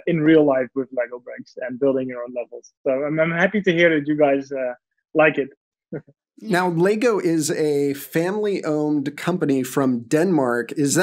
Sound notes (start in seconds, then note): 5.8 laughs